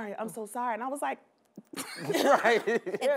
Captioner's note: laughs